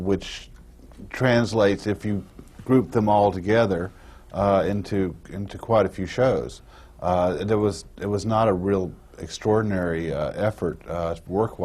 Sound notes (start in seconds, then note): none